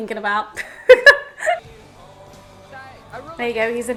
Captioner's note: laughing